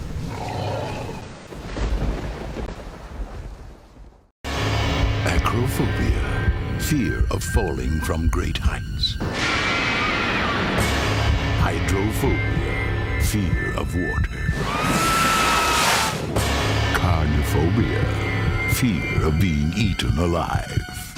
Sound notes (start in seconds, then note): 1.5 sfx: thunder; 9.6 screaming; 14.6 screaming